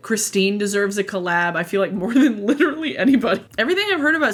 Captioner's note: laughs